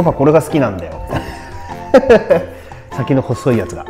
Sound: laughs

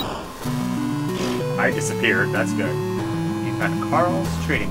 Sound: blows raspberry

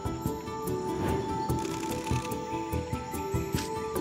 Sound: camera clicks rapidly

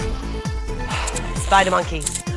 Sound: sighs

